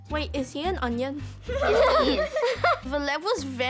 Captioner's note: laughs